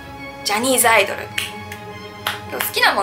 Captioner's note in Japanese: 手拍子